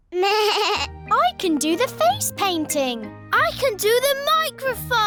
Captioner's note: bleats